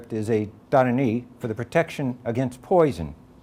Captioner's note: none